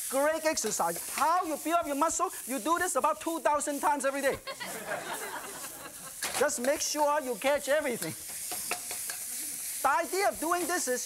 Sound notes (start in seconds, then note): 4.2 audience laughing